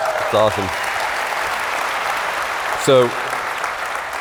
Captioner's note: applause